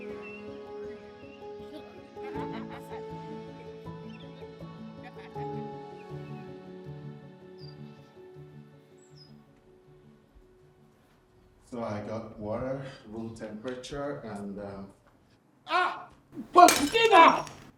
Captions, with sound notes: So I got water, room temperature and uhhm... (screams) Steven!